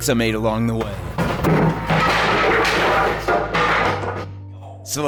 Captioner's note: crashing wood